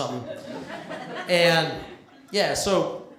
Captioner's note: laughter